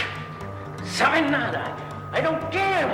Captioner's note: speaking foreign language